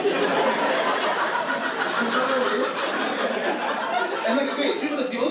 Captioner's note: audience laughing